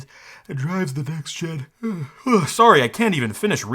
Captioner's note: yawns